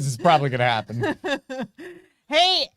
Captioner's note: laughing